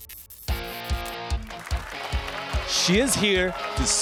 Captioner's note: applause and cheers